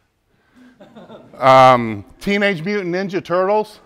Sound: laughs

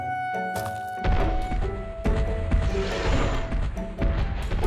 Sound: dinosaur stomping

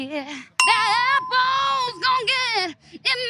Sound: ding

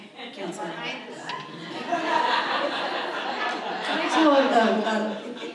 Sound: audience laughs

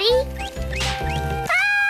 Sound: pop!; scream

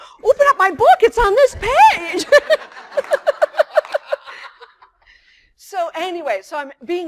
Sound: laughter

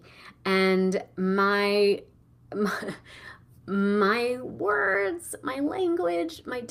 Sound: laughing

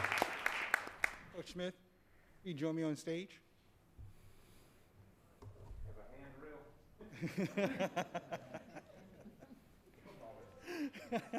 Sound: applause

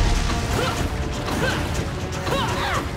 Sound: grunting

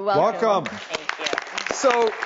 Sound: audience applauding

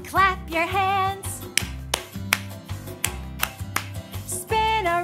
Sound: clapping

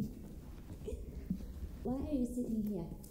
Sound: Kate laughs

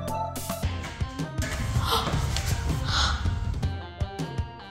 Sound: children gasp

